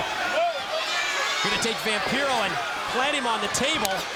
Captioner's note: crowd chatter